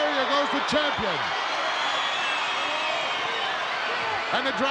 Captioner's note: crowd cheering